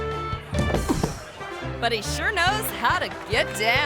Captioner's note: person thuds; people clapping